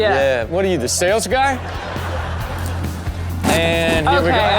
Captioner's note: audience laughs